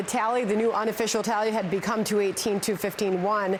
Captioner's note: applause